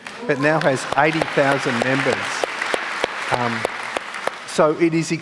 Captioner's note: applause